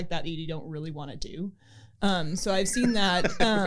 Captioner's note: laughter